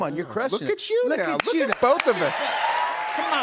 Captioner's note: cheers and applause